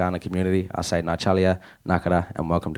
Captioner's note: speaking in first nations language